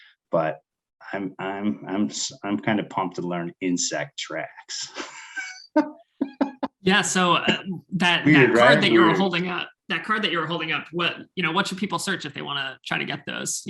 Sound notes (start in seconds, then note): 4.7 laughing